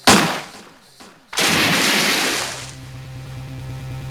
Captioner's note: bang!; splash!